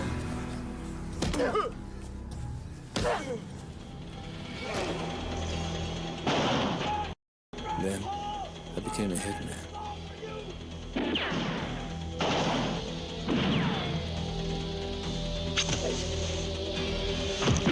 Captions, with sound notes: (man yelling) Then I became a hitman. (guns firing) (intense dramatic music)